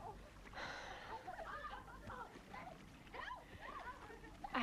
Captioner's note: Hundra sighs